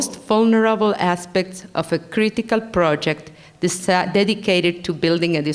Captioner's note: foreign language